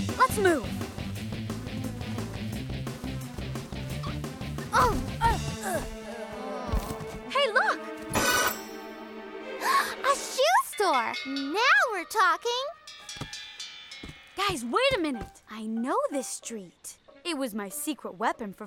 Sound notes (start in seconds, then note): 4.6 grunting; 7.3 gasps